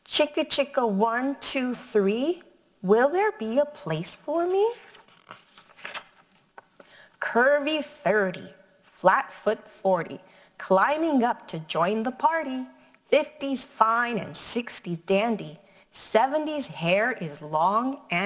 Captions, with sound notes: "'Chicka Chicka 1, 2, 3, will there be a place for me?' (paper rustles) "Curvy 30, flatfoot 40, climbing up to join the party. "50's fine and 60's dandy, 70's hair is long and sandy.